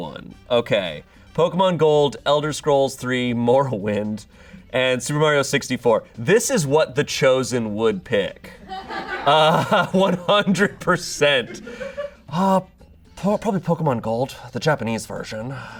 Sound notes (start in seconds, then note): 8.5 audience laughing